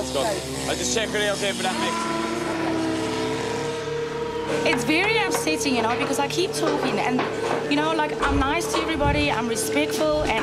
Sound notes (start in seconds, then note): 0.0 grinder drowns out voice